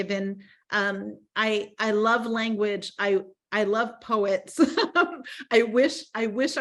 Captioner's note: laughing